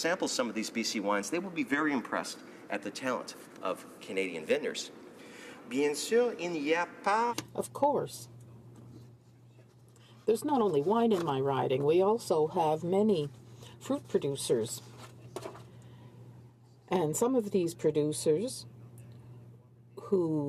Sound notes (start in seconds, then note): 13.0 speaking in French